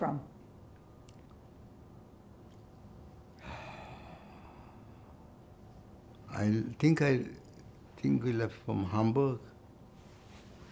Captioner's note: sighing